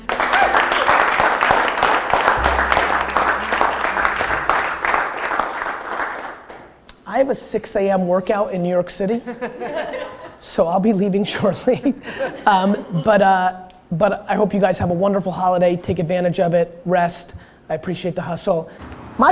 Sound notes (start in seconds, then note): 0.0 group applause; 9.4 group laughter